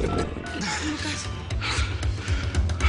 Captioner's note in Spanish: Rugido de las tripas